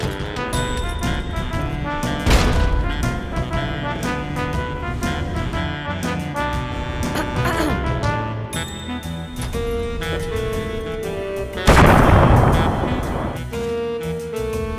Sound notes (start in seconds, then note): 10.0 Another grenade by Skulls explodes right next to the landmine